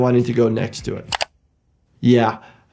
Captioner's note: mouse clicking